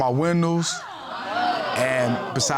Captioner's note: audience exclaiming